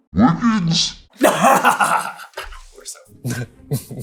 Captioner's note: laughter; smarmy chuckle